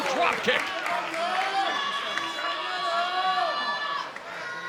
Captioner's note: crowd shouting